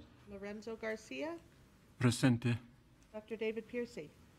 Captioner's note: speaking in foreign language